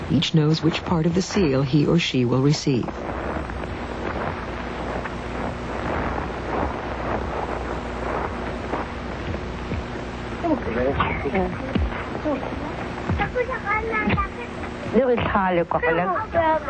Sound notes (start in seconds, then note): 4.0 children and adults talking